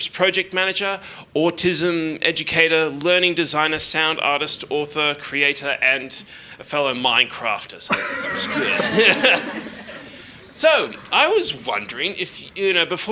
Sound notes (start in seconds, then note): 7.9 laughs; 7.9 audience laughing